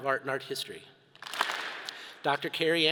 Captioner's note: all clap